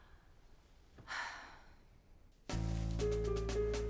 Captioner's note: Kate sighs; playful music